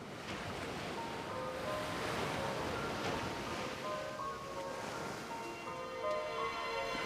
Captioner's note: waves crashing; melancholic music